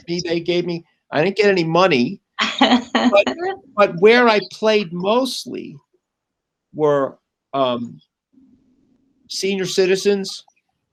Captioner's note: laughs